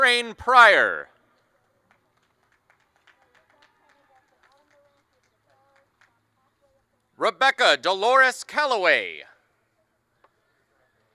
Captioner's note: applause